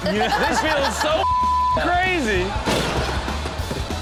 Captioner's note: Chanel and audience laugh; beep; lightning crashes